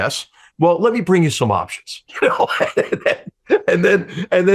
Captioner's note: laughs